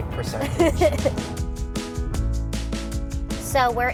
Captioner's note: laughter